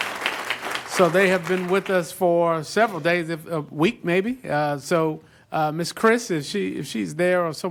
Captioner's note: applause